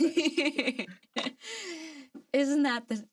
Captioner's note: laughs